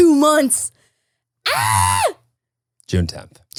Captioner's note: shouting